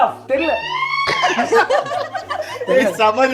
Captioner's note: laughing